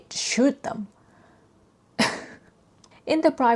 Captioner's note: sighs